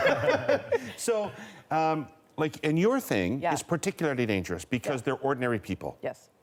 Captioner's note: laughter